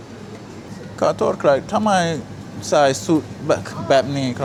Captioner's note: speaking Thai